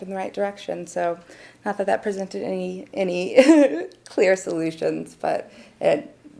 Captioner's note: chuckles